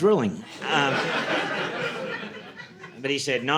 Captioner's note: audience laughing